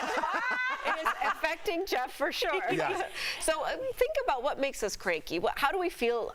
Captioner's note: laughter